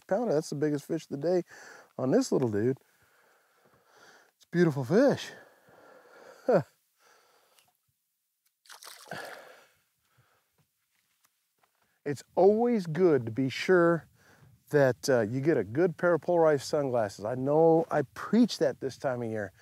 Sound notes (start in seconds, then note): 6.1 chuckles